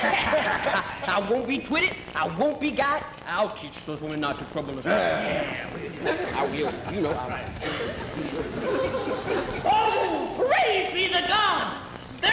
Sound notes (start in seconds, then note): 0.0 laughter; 4.7 men voicing agreement